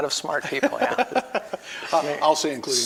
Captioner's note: laughing